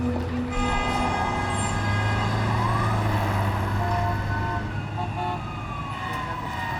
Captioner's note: sirens wailing; horns honking